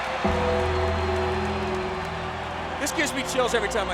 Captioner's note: bell tolling